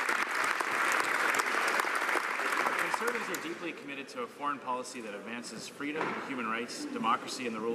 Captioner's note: some Applause